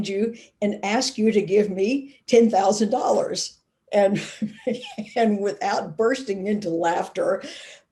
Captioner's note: laughing